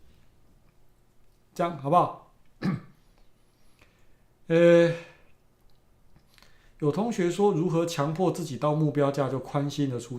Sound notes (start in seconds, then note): 2.6 clears throat; 6.5 speaking in foreign language